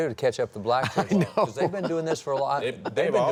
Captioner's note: laughs